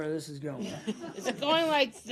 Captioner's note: laughter